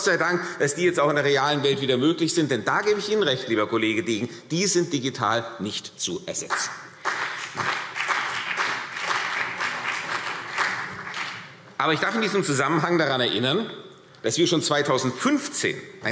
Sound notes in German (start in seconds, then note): 6.4 Beifall